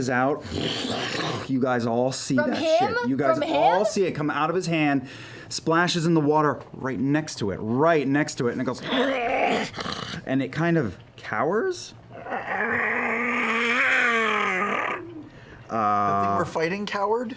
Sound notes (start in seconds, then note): 8.8 gurgling growl; 12.1 monster noises